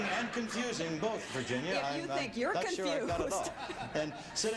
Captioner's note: laughs